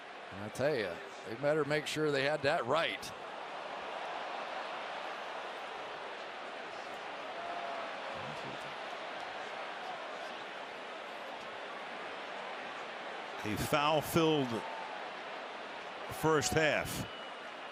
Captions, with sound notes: I'll tell you, they better make sure they had that right. [crowd cheering] A foul-filled first half.